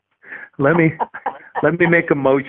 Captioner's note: laughing